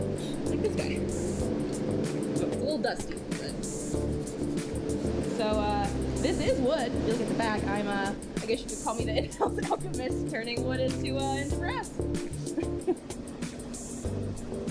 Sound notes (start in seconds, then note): 12.4 laughs